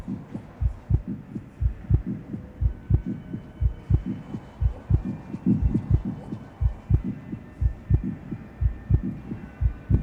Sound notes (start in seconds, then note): 3.9 heart beating